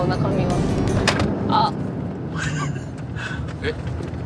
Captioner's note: thump